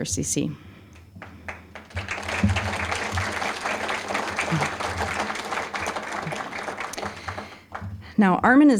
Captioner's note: applause